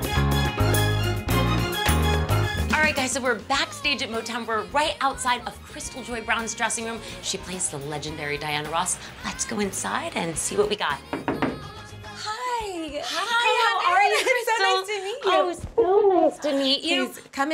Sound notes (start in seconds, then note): 11.1 knocking